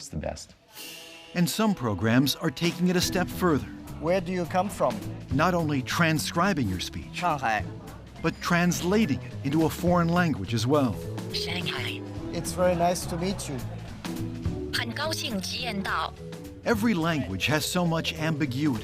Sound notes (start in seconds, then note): 7.1 speaking Chinese; 13.3 computer translating into Chinese